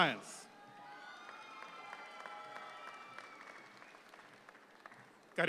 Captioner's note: audience claps